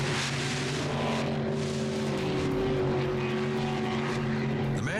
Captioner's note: boat revving